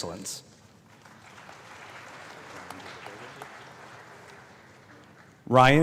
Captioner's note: applause